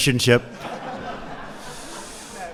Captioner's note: laughter